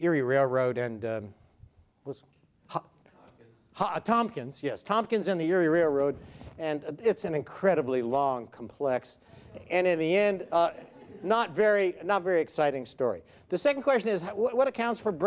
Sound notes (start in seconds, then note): 10.3 audience laughs